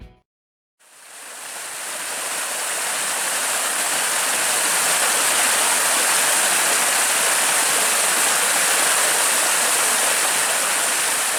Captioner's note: water flowing